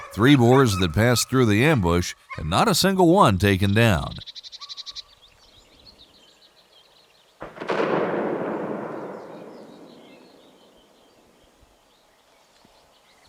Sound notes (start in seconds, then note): 7.6 gunshot